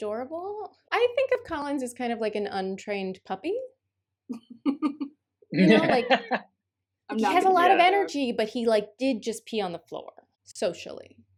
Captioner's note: laughter